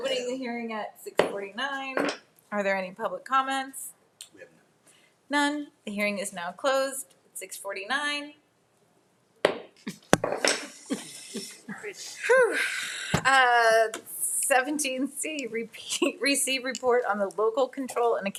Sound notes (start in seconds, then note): 10.0 gavel thudding; 10.4 people laughing; 12.6 sighing in relief